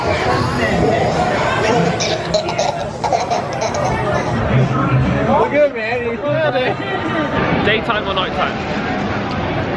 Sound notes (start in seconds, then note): 0.9 baby giggling; 4.8 people chattering